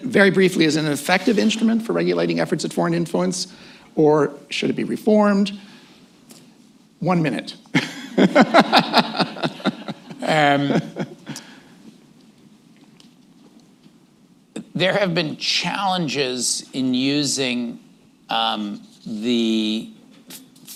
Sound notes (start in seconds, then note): 7.7 laughter